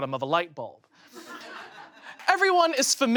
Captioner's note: audience laughs